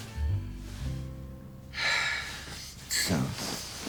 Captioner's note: exhaling deeply